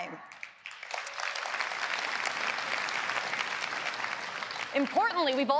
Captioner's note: applause